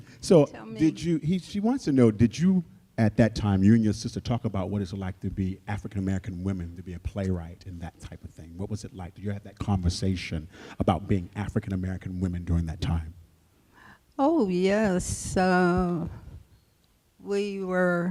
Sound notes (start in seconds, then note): none